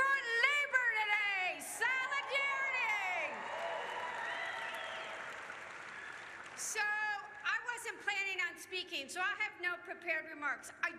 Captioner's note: cheers